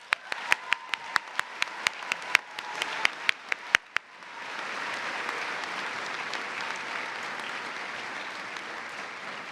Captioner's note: cheers and applause